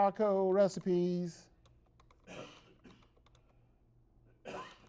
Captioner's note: typing on keyboard; someone coughs in the background